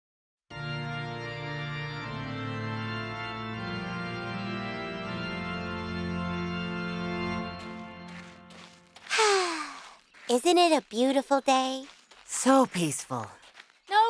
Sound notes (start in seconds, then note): 0.5 organ music; 9.0 sighs